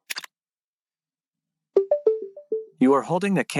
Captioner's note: Meta clicks and beeps